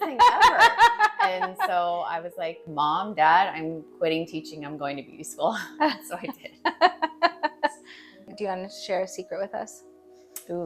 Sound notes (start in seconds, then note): 0.0 laughing; 6.1 laughing; 6.3 chuckling